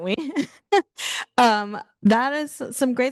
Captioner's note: host chuckling